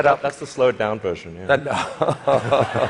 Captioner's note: laughter